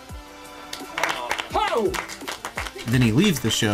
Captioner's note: applause